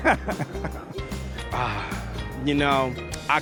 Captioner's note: chuckling; sighs